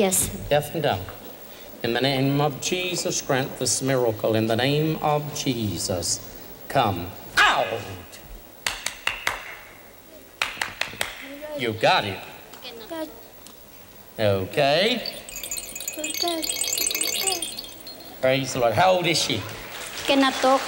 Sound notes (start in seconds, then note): 8.6 claps several times; 14.7 shaking rattle; 18.9 soft applause